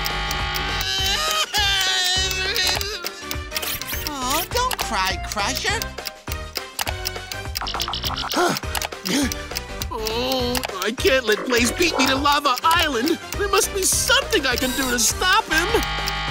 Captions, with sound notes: [crying] Oh. Don't cry, Crusher. [gasping] I can't let Blaze beat me to Lava Island. There must be something I can do to stop him.